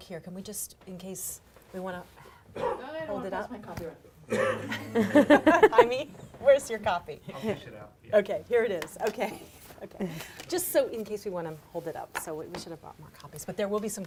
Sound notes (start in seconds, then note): 4.3 ladies laughing